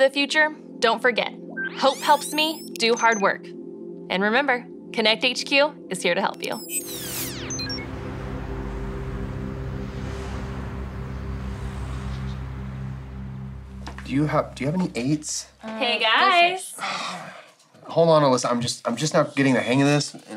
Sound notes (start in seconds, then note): 7.3 soft music; 16.7 sighs